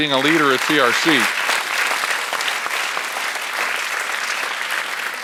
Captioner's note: audience applauds